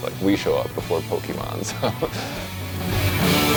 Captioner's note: laughs